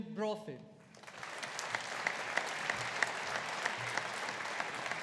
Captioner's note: audience applauding